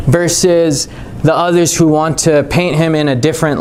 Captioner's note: none